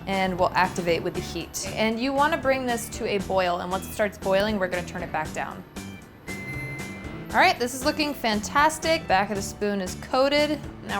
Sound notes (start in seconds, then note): 6.3 chimes